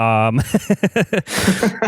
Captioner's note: laughs